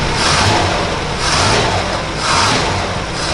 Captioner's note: engine Revving